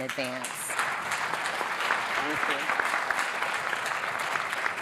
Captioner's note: audience applauding